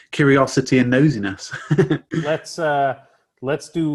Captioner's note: chuckles